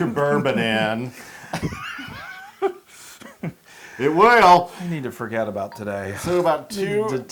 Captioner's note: laugh